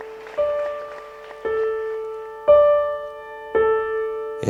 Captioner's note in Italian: Applauso